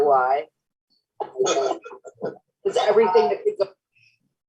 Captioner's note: laughter